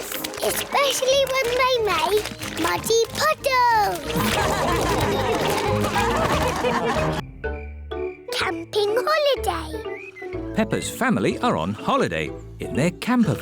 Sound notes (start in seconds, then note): 4.1 all laugh